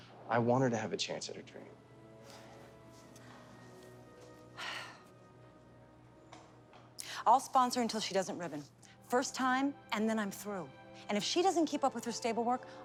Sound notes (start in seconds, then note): 2.6 gentle music; 4.5 Bonnie sighs